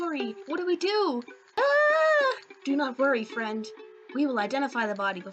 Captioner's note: scream